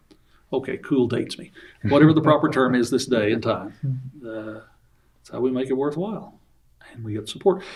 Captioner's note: laughs